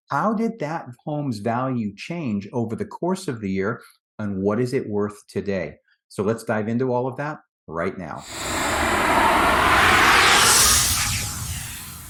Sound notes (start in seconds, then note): 8.2 graphic swooshes